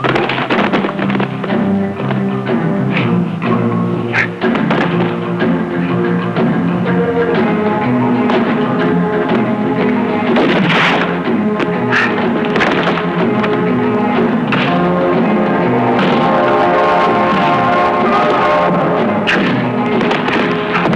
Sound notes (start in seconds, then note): 0.2 dramatic music; 0.2 whacking; 10.2 gun firing; 11.9 dramatic music; 11.9 whacking